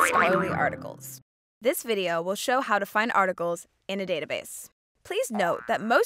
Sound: boing-boing-boing

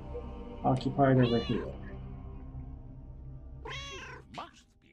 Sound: Hodge meowing

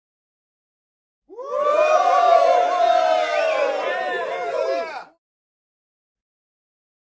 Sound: sound of cheering crowd

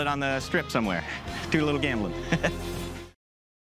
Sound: chuckles

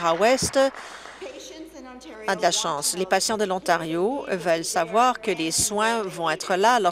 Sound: applause

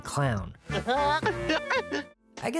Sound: chuckling

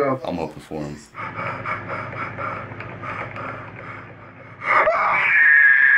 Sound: KSI breathing heavily; screams piercingly

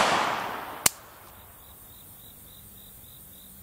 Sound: clicking

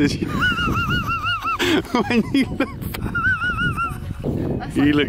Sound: laughing

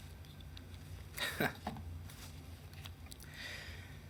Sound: chuckles

